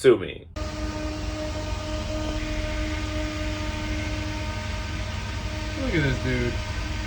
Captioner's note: fan whirring